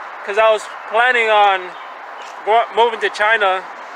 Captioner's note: none